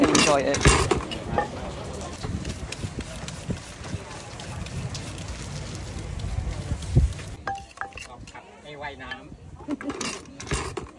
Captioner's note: sound of Cooking